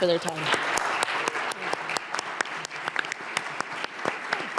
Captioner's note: audience applauds